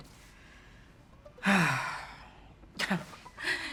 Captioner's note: exhaling deeply